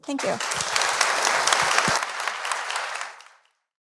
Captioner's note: audience applauding